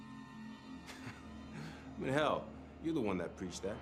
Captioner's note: chuckling